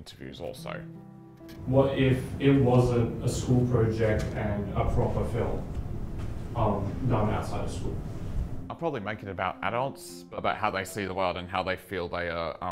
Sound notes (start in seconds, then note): none